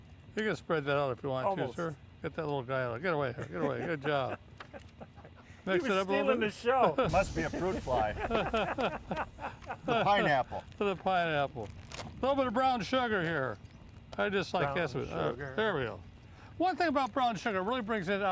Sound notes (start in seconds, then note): 3.3 laughing; 8.4 men laughing